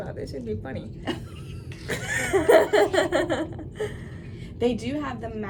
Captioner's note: both laughing